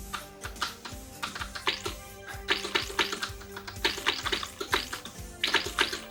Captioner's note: keyboard Clicking, Game Shooting Sounds